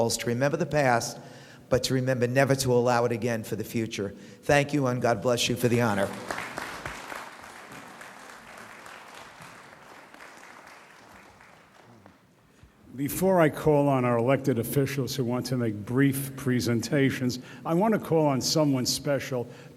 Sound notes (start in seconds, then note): 5.9 audience applauds